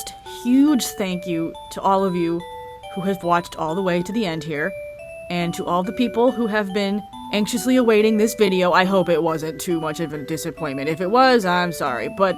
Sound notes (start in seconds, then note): none